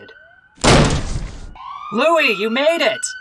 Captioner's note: door smashes open